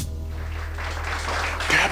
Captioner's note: applause